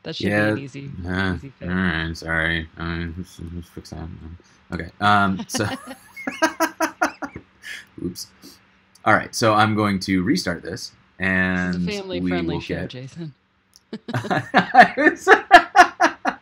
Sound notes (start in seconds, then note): 2.0 softly mumbling; 4.7 laughing; 14.1 laughing